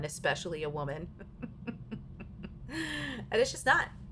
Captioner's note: laughing